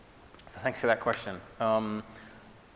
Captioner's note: none